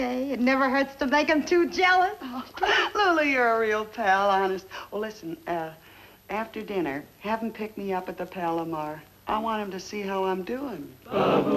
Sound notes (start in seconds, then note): none